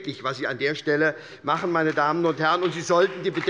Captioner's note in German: Beifall bei der SPD